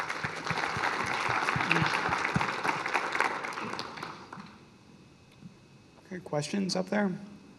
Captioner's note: applause